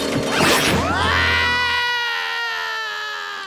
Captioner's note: screaming; rattling